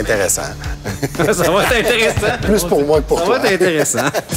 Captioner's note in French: rires